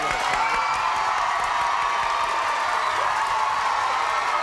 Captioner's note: crowd cheering